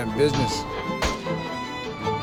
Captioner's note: gunfire